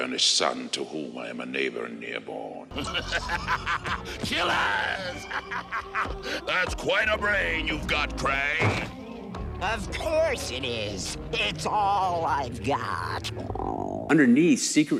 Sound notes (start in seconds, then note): 2.7 laughing; 4.7 cackling